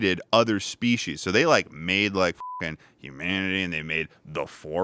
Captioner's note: beep